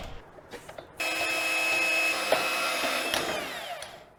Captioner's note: bandsaw sawing